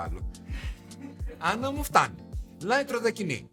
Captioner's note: laughing